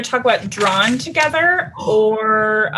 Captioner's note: gasp